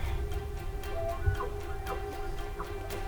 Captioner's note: bull bugling